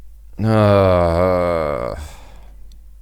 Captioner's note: moaning